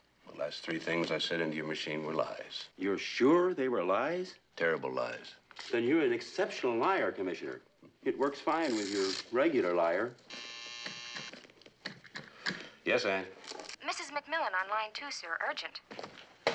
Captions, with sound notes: The last three things I said into your machine were lies. You're sure they were lies? Terrible lies. Then you're an exceptional liar, Commissioner. It works fine with your regular liar. [phone buzzing] Yes, Anne. Mrs. McMillan on line two, sir. Urgent.